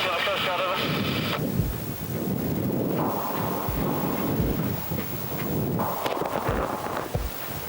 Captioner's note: water splashes; wind whooshing